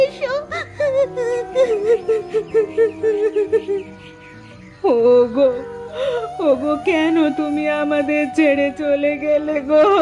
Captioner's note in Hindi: जोर से हँसी